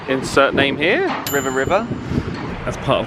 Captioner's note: name pings up